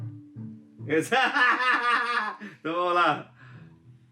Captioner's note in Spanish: risas